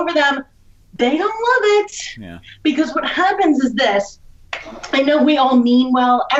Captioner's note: claps